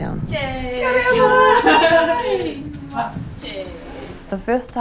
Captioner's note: laughs